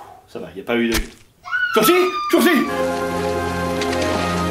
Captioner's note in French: cris d'enfant; bruit de plantage